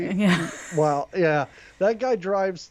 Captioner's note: laughs